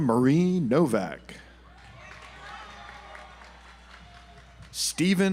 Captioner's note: audience applauds